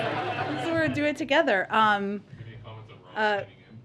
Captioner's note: laughter